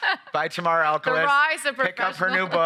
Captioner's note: laughing